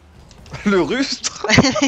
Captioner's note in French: rires